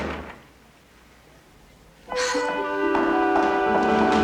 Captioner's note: sighs